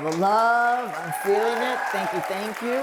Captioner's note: applause